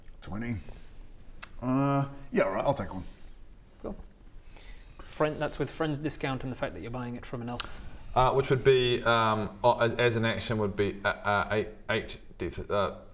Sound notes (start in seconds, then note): none